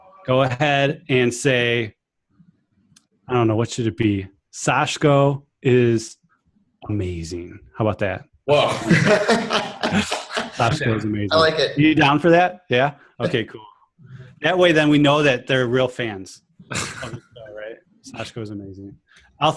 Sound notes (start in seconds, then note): 8.6 laughs